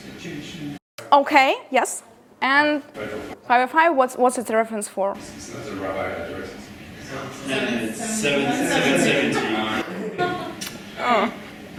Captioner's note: laughter